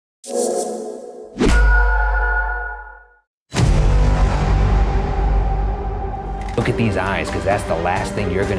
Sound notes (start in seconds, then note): 0.2 whooshing; 3.6 suspenseful music